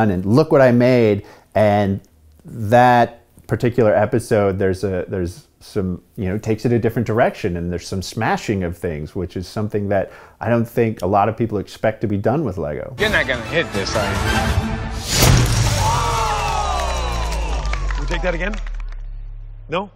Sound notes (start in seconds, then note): 15.6 crowd groans